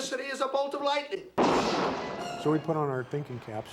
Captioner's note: thunderclap